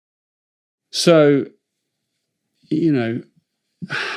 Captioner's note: sighs